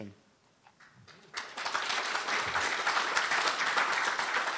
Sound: applause

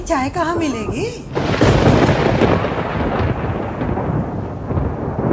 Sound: thundering

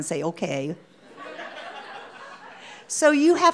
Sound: audience laughing

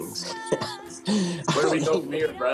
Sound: laughter

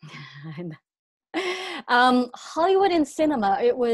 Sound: chuckles

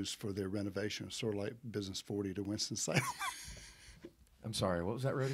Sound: laughing

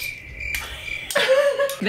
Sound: crickets chirp; laughs

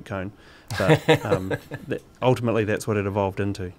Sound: laughs

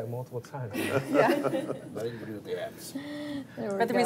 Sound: crowd laughing

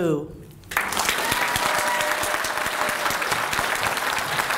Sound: applause

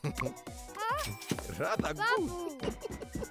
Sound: chuckling; laughing

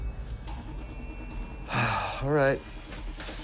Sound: sighs

